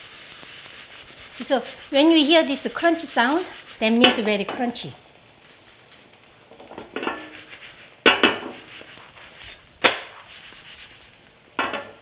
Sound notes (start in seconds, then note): 7.9 chrunchy sound